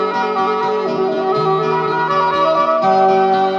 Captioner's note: none